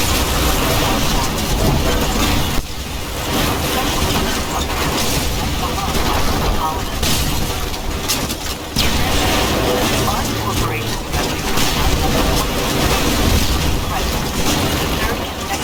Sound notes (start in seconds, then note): 10.2 comms radio chattering